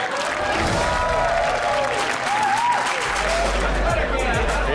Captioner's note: audience claps and cheers